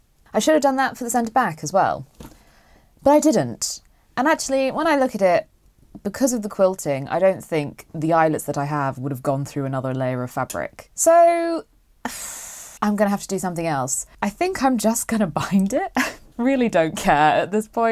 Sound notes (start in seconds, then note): 11.6 pffffff noise